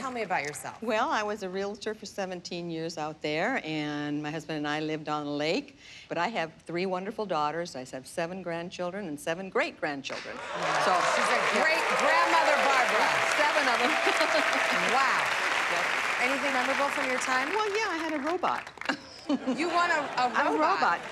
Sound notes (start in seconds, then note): 13.2 laughs; 18.8 chuckles